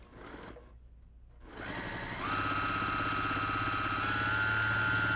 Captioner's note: sewing machine humming